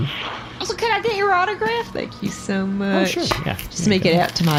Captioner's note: scribbles